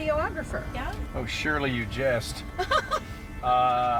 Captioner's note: laughs